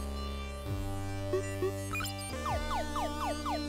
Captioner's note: retro music playing; beeping faster; beeping